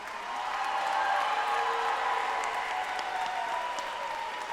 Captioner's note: audience applauding